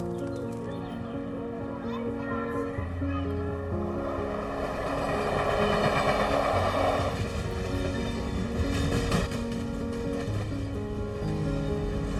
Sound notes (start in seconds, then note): 0.1 birds chirping; 0.5 kids playing; 5.4 train engine noise